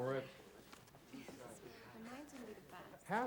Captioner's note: students chattering